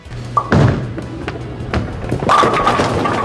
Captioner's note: ball thuds; pins knocking